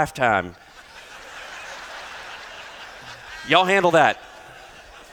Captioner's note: laughter